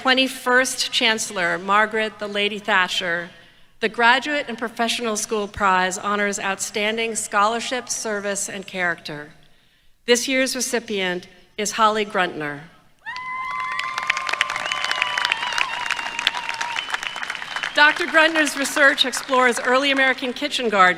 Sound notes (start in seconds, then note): 13.1 applause